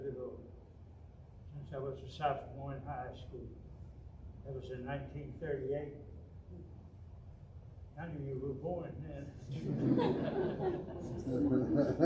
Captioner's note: audience--laughter